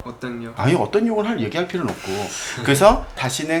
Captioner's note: haha